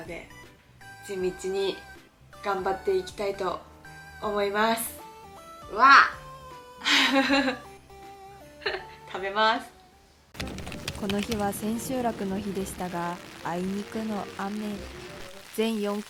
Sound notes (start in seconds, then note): 6.8 spirited laughter lol